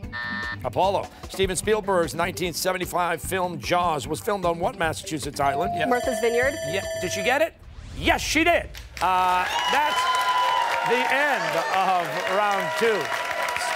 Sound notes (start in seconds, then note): 5.5 timer; 9.0 cheers and applause